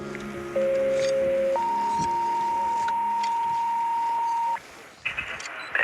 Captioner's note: beeps